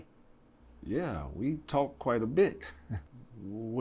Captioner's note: chuckles